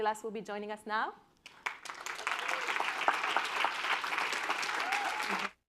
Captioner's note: applause